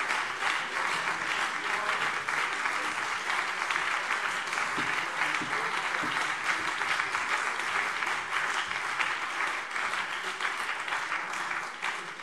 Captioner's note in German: Beifall BÜNDNIS 90/DIE GRÜNEN und CDU